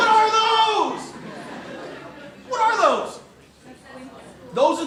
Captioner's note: laughter